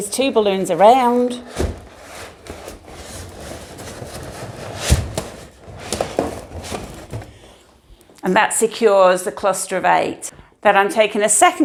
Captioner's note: balloons squeaking